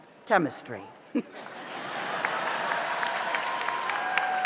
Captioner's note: audience laughs; audience cheers; audience applauds